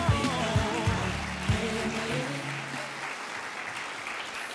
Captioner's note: applauding